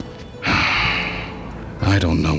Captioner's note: suspiro